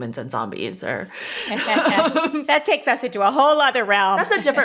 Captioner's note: laughing